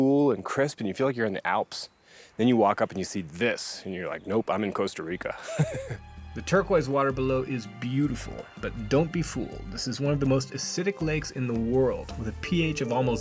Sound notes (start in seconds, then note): 5.3 laughs